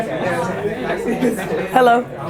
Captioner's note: chattering